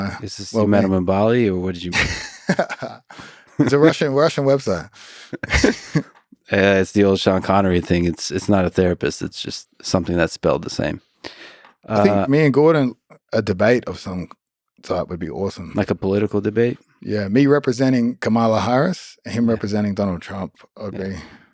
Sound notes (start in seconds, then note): 1.9 Craig laughs; 5.3 both laughing